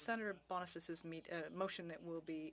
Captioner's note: speaking French